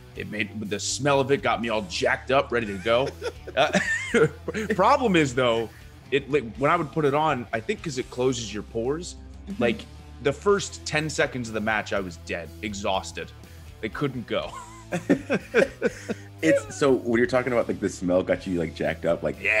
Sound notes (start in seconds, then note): 2.6 laugh; 14.4 laugh